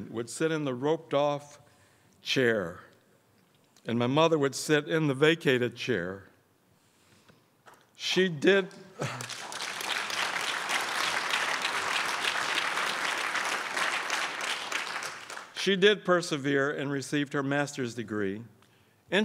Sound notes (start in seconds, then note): 9.0 crowd applauds